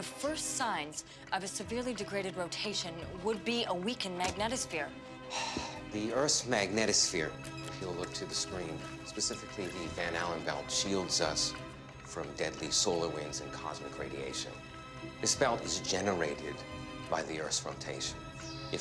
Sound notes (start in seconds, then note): 5.3 sighs